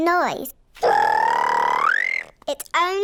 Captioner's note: high-pitched whistle